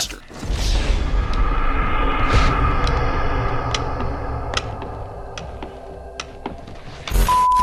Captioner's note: sound effect